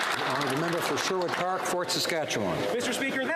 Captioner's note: applause